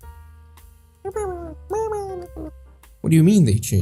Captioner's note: verbalising